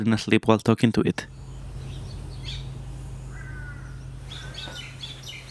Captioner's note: birds chirping